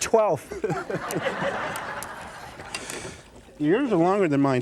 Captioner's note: laughter